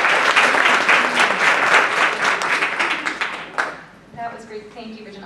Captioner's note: applause